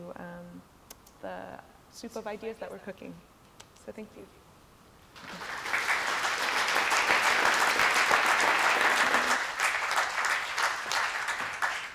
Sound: applause

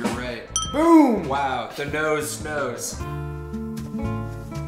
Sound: ding

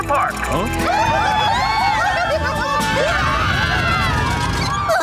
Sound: screaming

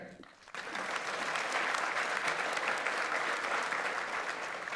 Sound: audience applauds

